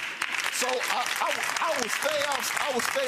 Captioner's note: audience applauding